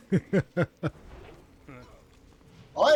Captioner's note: laughs